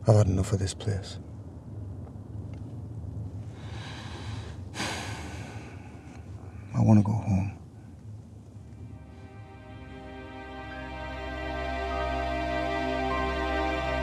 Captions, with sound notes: - I've had enough of this place. (sighs) I wanna go home. (somber music)